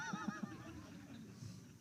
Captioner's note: laughter